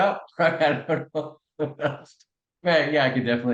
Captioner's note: laugh